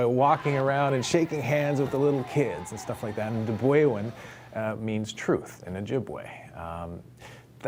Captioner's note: cheering